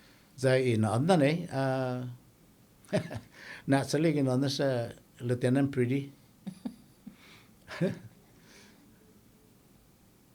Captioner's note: laughing